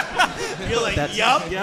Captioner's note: hosts and audience laughing